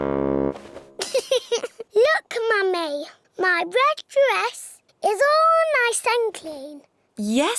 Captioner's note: giggles